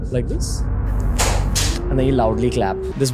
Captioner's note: clap clap